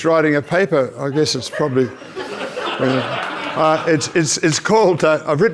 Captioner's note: audience laughs